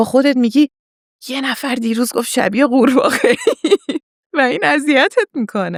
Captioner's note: laughs